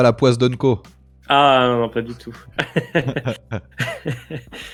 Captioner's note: laughs